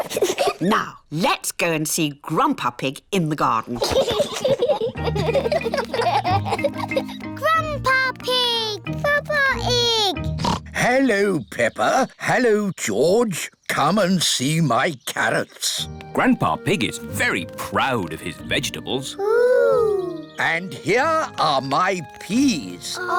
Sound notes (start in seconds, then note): 3.8 both laughing; 10.2 oinks